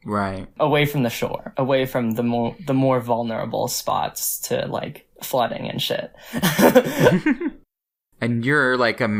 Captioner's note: both laugh